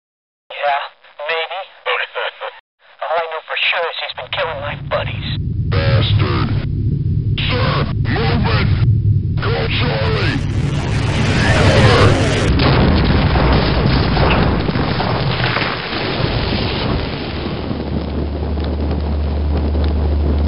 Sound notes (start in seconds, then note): 6.2 distant rumble; 13.0 crash landing; 19.7 fire